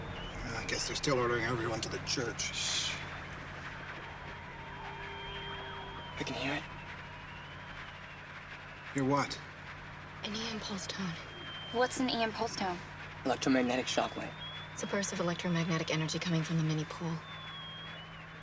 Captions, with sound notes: I guess they're still ordering everyone to the church. [radio interference with whistle] I can hear it. Hear what? An EM pulse tone. What's an EM pulse tone? Electromagnetic shockwave. It's a burst of electromagnetic energy coming from mini pole.